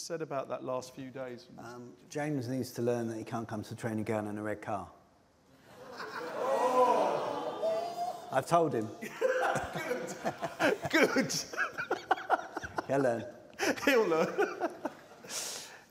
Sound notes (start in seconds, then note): 5.6 laughter; 11.7 laughter; 13.5 laughs